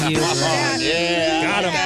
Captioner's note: buzzing